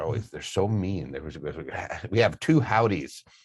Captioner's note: stuttering